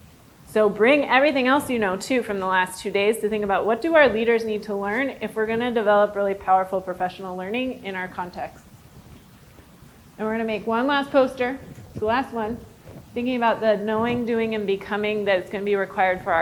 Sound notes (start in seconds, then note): none